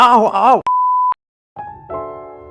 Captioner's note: beep